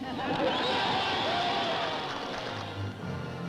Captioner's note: laughter and applause